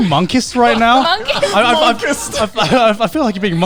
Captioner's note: laughs